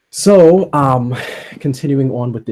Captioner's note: sigh